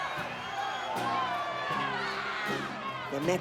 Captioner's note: crowd shouting; guitar strumming